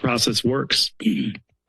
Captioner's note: clears throat